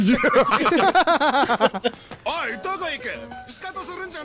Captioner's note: everyone laughing